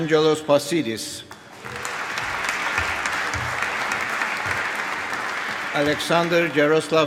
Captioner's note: applause